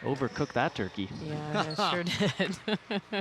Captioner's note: laughing